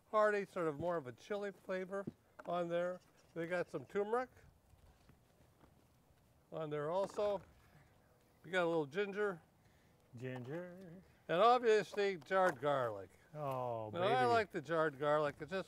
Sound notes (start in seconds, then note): none